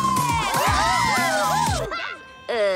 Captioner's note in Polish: odgłosy triumfu